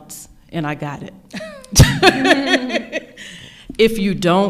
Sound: laughing

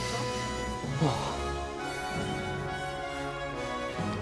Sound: sighs

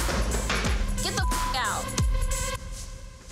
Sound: beep

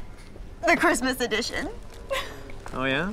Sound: laughing

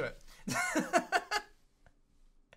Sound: laughs

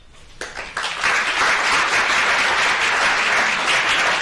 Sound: applause

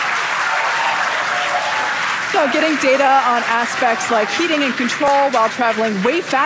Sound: audience applauding

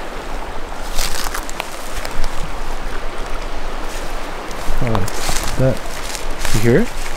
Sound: water flowing; leaves crunching

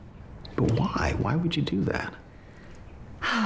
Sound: sighs

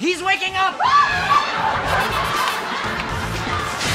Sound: screaming; heroic music

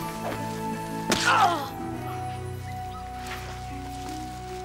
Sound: grunts

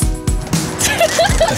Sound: laughs

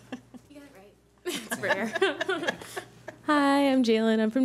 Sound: laughing

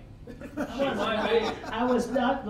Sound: all laughing

